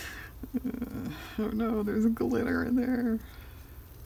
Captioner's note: laughs